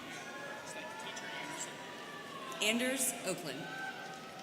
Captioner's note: students cheering